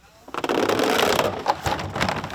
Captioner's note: fence creaking